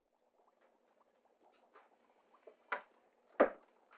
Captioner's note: liquid bubbling